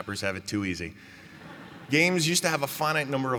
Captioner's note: laughter